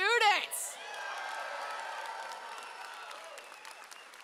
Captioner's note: audience cheers